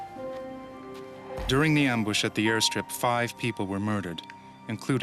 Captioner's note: voiceover